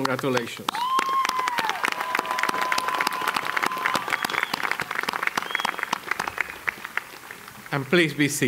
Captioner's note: applause